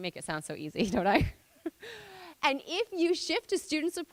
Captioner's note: laughing